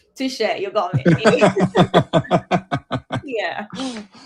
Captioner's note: laughter